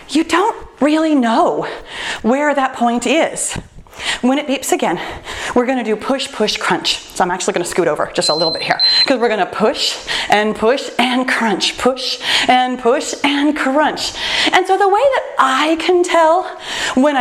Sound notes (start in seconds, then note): 8.2 timer beeps